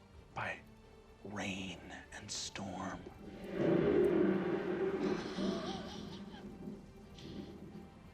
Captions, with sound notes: by rain and storm. (thunder rumbling)